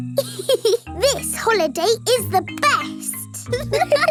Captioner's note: giggles; laughing